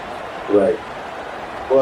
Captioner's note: crowd Noises